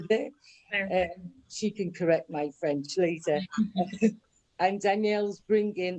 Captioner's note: laughs